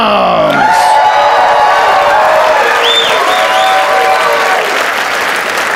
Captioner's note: audience cheers and applauds